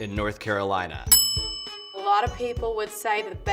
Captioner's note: bell rings